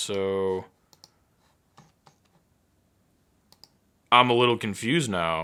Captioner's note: keyboard clicking